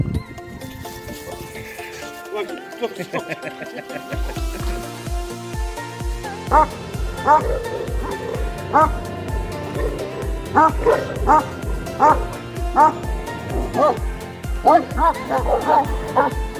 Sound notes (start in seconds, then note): 8.5 growlings; 14.4 barks